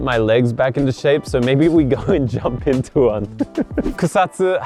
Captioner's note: laughs